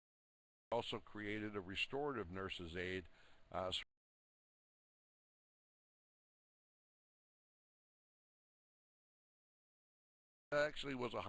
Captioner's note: audio drops; audio drops